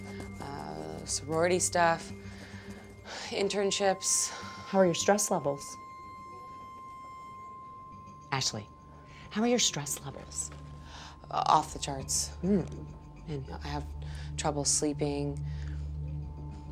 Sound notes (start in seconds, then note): 2.3 sighs; 6.2 piercing electronic tone